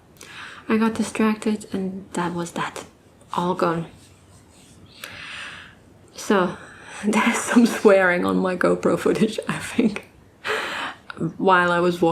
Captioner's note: laughs